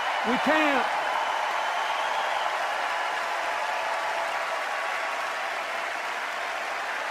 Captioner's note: cheers and applause